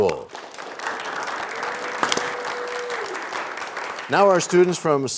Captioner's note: cheers and applause